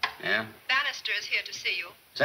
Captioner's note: woman On Intercom